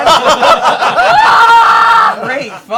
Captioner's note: screaming